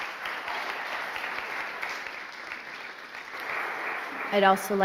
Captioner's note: applause